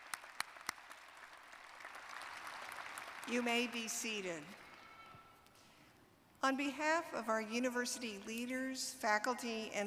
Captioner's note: applause